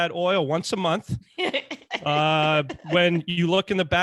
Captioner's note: laughs